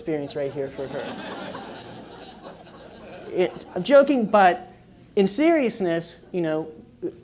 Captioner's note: laugh